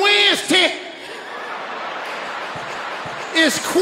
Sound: audience laughing

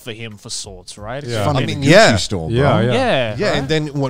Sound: group chattering

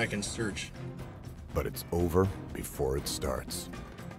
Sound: voiceover

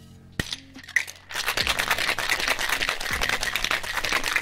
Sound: ice clinking

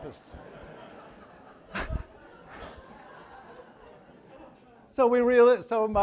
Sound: audience laughing

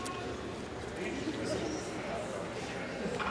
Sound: none

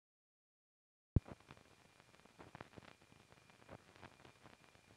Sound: silence

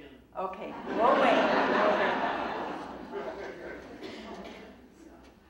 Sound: audience laughing

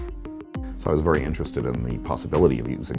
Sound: voiceover

